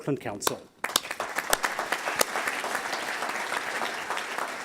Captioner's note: audience applauds